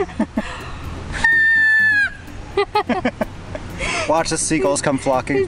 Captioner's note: whistles